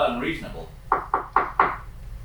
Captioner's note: knocking